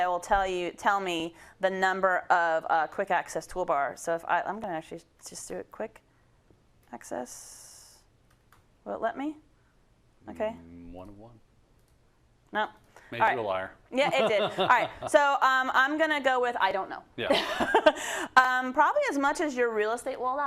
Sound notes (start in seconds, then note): 14.0 laugh; 16.8 laugh